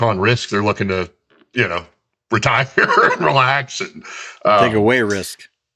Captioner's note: laughs